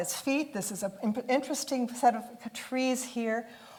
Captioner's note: none